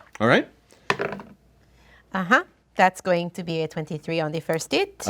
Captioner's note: dice roll